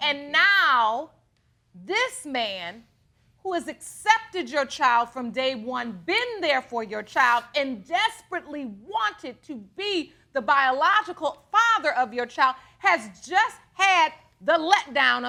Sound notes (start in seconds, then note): none